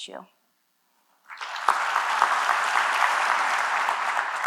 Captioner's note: applause